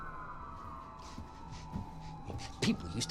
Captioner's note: police sirens